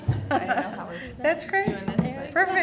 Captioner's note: people laughing